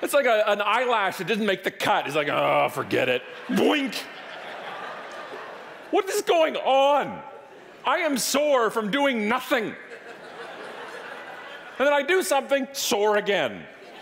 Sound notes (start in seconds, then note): 4.5 audience laughing; 9.7 audience laughing